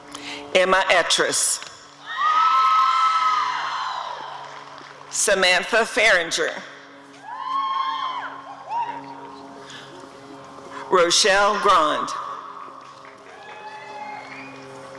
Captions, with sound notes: Emma Etris [audience cheering] Samantha Farenger [audience cheering] Rochelle Grande [applause and cheering]